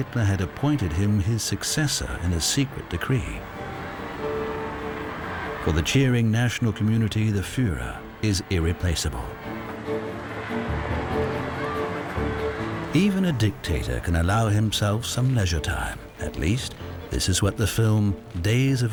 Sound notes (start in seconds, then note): 6.2 cheering